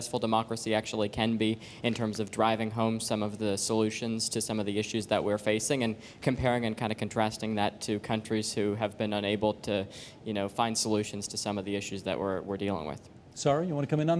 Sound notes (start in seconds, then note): none